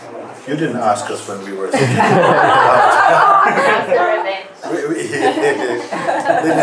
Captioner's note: Lachen